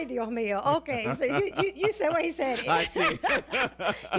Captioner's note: Risas